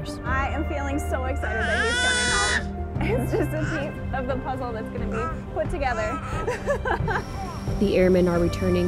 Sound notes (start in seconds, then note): 1.4 excited baby yell; 4.9 laughs